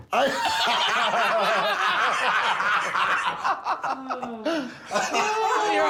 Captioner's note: laughter